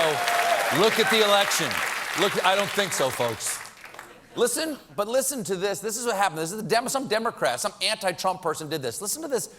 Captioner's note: applause